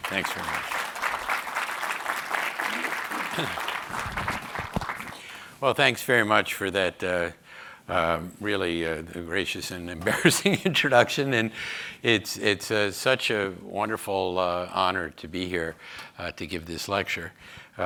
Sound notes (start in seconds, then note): 1.9 audience applauding; 11.1 chuckles